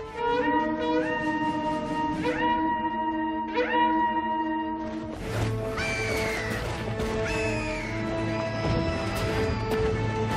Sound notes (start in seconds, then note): 0.0 ram's horn sounding; 5.6 squawking